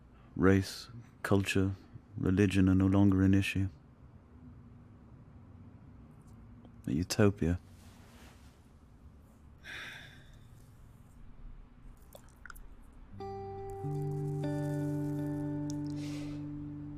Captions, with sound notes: race, culture, religion are no longer an issue. A utopia. [sighs] [soft pensive music]